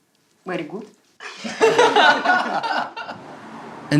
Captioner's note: laughter